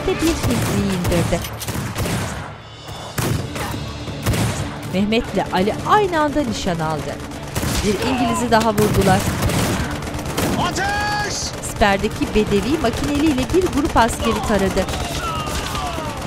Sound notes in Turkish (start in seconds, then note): 7.9 İnleme sesi; 12.7 Silah sesleri